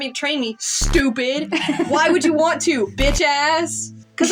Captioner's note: laugh